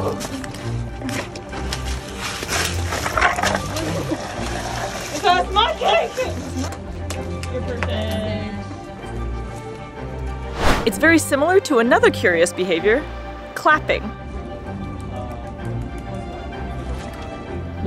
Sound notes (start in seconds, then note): 0.3 background music; 0.3 ice cubes being moved, large ice treats falling to ground; 7.0 background chatter; 7.0 background music; 7.0 ice treats being banged on ground; 10.5 whooshing sound effect; 14.2 background music; 14.2 tapping sound as Katmai claps paws; 16.2 background music